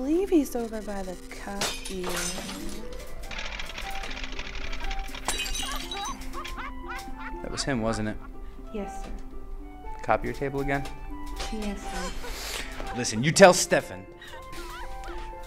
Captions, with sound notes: I believe he's over by the copier *shattered glass* *laughter in the distance* that was him wasn't it? yes copier table again? yes, sir listen you tell Stefan